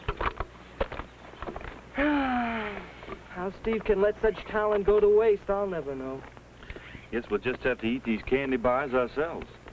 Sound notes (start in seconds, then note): 1.9 sighs